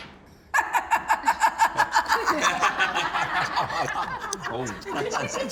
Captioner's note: laughing